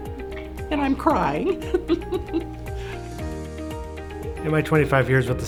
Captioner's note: laughs